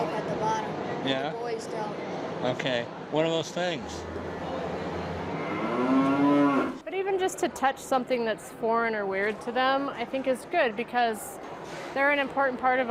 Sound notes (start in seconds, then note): 5.2 cows mooing